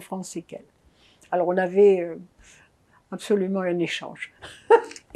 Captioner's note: laughing